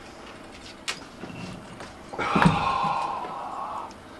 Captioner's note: sigh